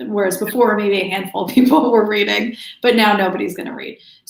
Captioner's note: laughs